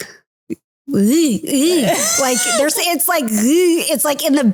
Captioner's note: making Russian letter sounds